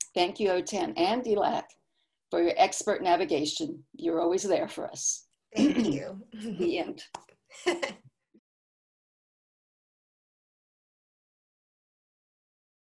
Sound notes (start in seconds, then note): 7.6 chuckles